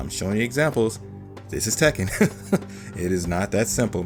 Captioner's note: chuckles